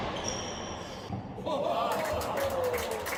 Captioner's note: applause and cheers